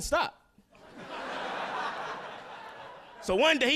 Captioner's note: audience laughing